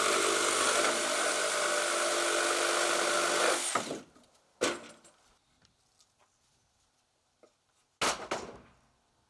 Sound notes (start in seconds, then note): 0.0 saw grinding